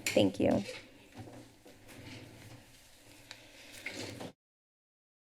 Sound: rustles; silence

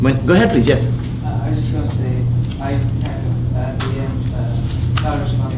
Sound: student off mic

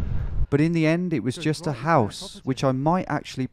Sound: voiceover

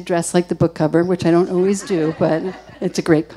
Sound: audience laughing

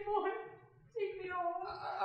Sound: crying

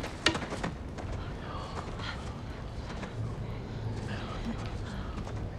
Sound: quiet chatter

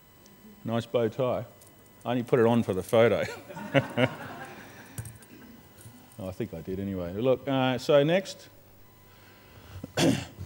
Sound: laughs

